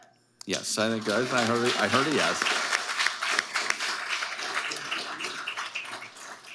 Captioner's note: audience applauding